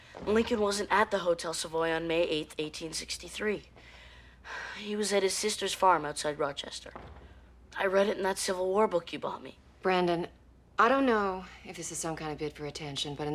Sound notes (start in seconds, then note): none